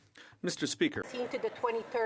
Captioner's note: applause